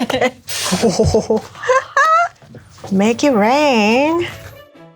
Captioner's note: laughs